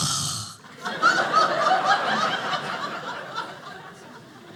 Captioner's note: audience laughing